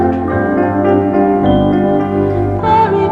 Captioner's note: none